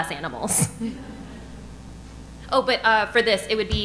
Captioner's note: audience laughing